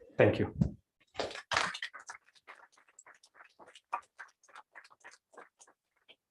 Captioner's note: applause